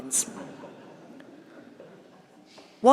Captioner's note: laughter